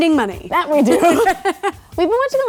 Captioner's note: laughing